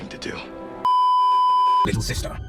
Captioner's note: beeeeeeeeeeeep